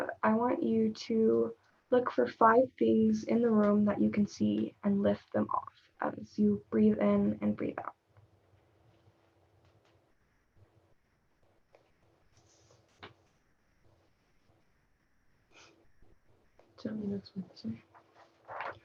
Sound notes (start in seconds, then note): none